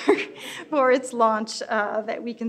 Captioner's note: laughs